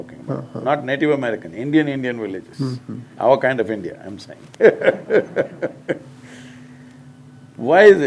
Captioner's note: laughs